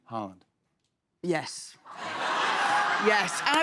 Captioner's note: laughter